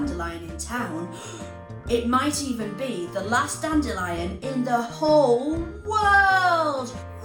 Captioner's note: gasp